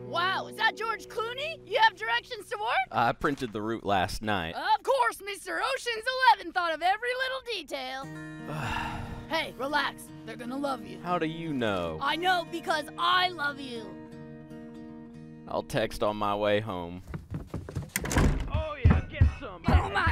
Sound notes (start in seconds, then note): 8.4 sighing; 14.0 gentle music; 16.9 ascending footsteps; 17.6 door slamming